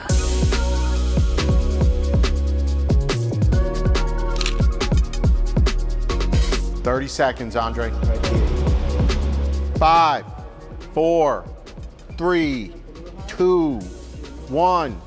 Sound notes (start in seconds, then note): 0.2 dramatic music; 4.3 shutter snaps